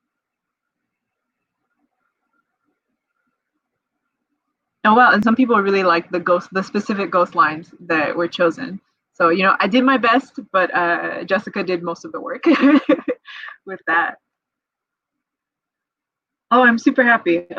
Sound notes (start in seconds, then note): 12.5 laughs